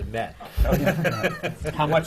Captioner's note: laughs